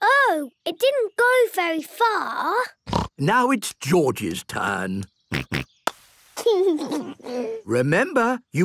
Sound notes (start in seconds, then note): 2.9 snort; 6.5 snort, laughing